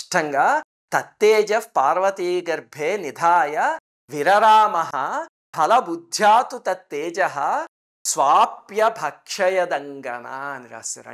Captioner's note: reciting verse